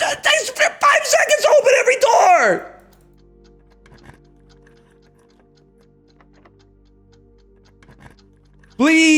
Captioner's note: frustrated Canadian sounds